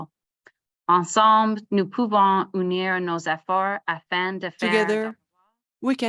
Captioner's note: French